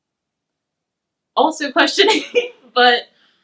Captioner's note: laughs